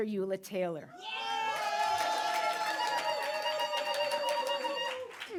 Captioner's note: audience cheering